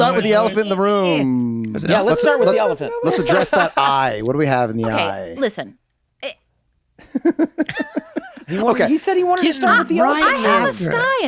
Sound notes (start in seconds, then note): 7.0 Rob chuckles